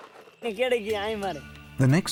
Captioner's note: man speaking Hindi